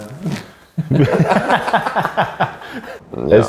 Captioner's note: everybody laughs